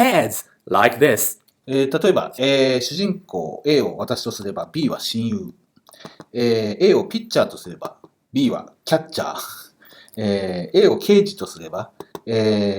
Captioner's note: speaking Japanese